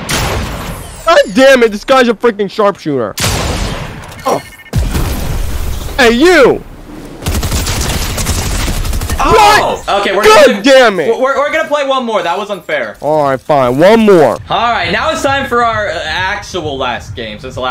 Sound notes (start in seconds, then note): 3.2 loud gunshot; 7.2 multiple guns firing